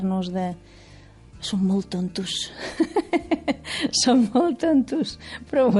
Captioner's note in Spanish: ríe